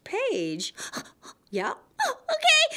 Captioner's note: gasp!